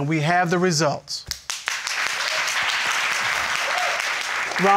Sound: audience applauding

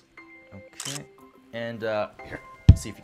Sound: phone camera clicks

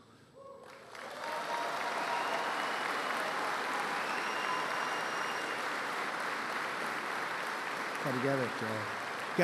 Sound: applause

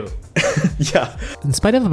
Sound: laugh

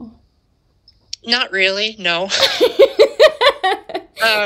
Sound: laughter

